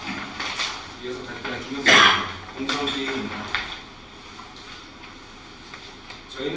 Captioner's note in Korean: 목을 가다듬음